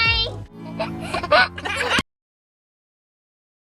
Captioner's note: laughing